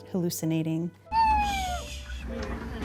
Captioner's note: screaming